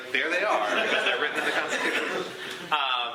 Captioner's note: laughter